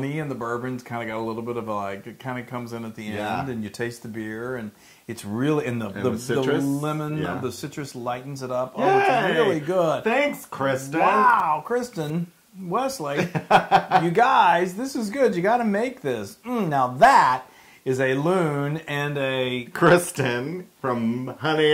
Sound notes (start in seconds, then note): 13.1 laugh